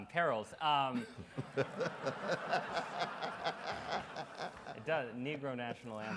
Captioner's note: Dr. West and audience laugh